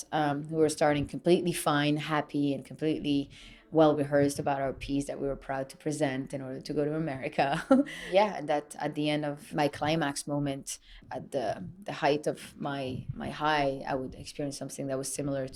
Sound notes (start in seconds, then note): 8.6 laughs